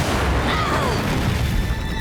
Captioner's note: grunting